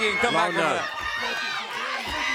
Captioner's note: crowd cheering